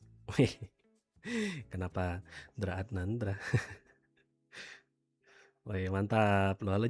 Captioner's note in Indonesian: tertawa